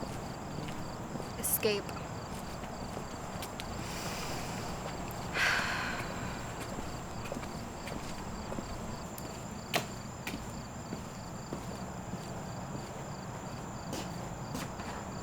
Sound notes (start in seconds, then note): 5.3 Zooey sighs